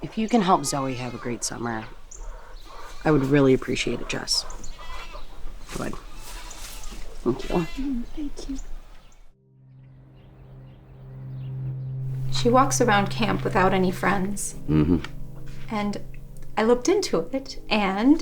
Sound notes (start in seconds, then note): 10.2 birds chirping; 10.2 tense music